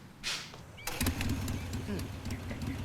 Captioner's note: motorcycle engine revs